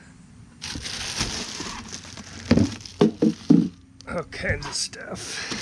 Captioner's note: plastic crinkling